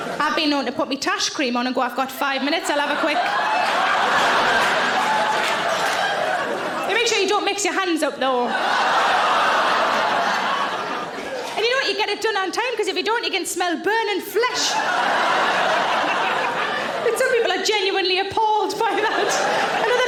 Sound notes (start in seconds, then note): 2.2 audience laughing; 14.4 audience laughing